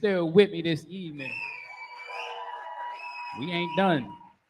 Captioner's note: cheering